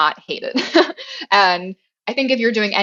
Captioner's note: laugh